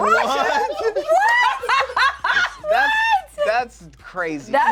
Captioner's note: laughs